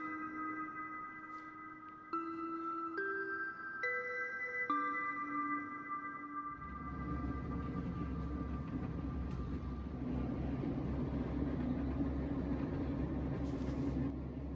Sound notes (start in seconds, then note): 6.6 tank engine hums